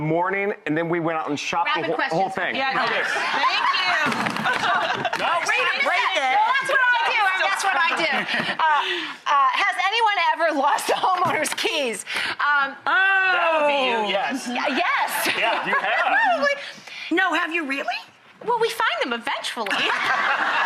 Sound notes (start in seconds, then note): 2.9 laughs; 14.2 laughs; 19.7 audience laughs